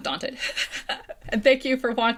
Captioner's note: laughing